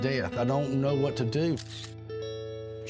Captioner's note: camera shutter clicks